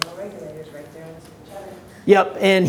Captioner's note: voice muffled